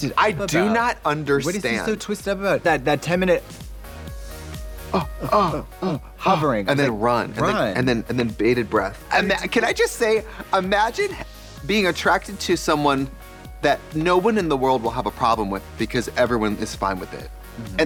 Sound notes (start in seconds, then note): 4.9 both moaning